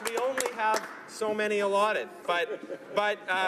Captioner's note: applause